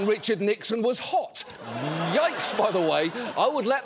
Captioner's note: audience laughing